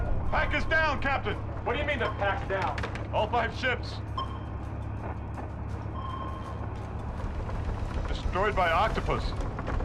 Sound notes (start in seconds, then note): 5.5 pinging